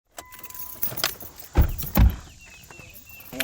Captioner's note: car doors closing